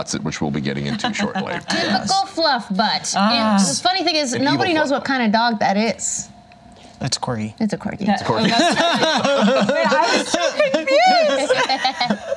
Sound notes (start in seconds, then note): 0.9 laughs; 8.4 laughter